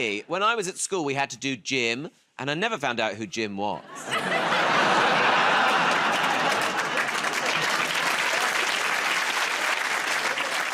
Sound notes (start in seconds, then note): 3.8 laughter; 7.1 cheers and applause